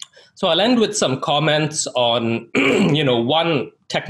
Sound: clears throat

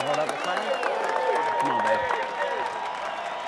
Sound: applause

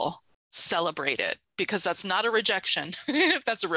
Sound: chuckles

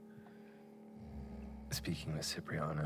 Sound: snoring

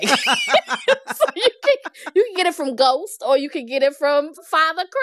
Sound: laughter

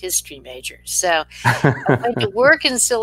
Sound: laughing

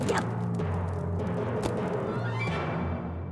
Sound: spear thud

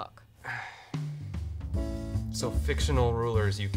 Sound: sighs

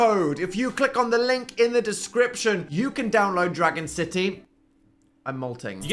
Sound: none

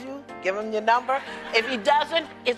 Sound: laughs

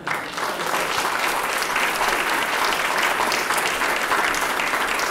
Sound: applause

